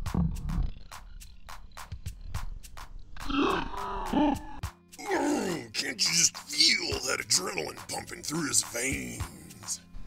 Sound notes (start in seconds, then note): 3.5 startled exhalations